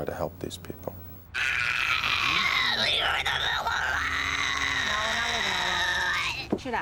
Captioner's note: growling incoherently